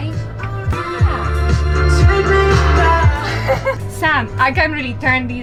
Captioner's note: dance music; laughter